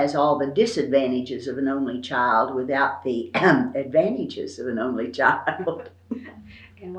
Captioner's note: laughs